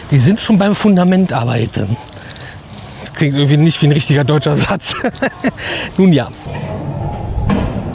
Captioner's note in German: gelächter